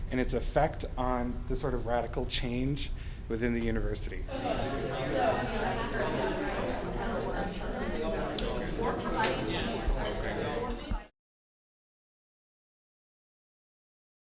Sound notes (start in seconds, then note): 4.2 background chatter